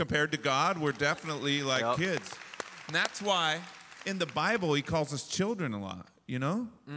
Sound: applause

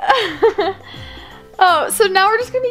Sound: laughs

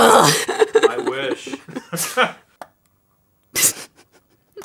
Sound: laughter

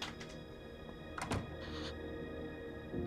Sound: door closing

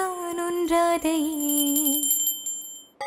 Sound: prayer bell rings

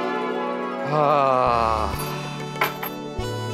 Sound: sighs

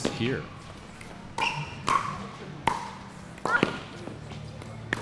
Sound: ball bouncing

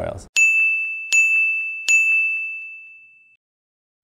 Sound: bell ringing

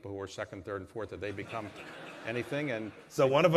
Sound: laughter

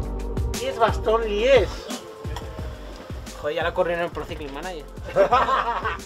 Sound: laughs

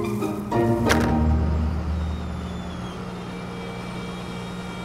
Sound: garbage crushing

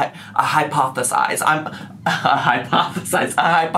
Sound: laughs

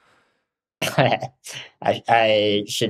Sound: chuckles

